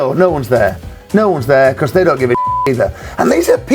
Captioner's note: beep